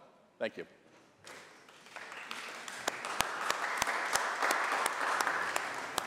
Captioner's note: applause